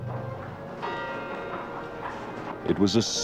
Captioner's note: bell rings